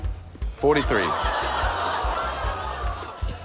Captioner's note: laughter